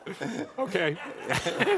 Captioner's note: laughter